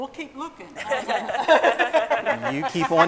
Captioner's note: scientists laughing